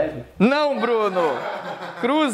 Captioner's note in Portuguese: risadas